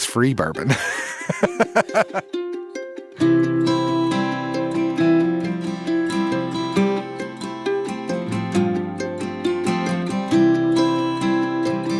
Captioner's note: laughs